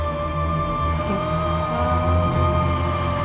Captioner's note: low pained groan